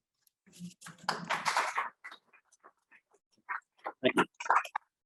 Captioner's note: audience applauding loudly